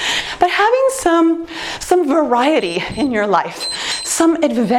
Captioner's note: timer beeps